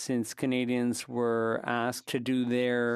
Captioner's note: speaking French